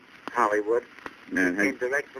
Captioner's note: on phone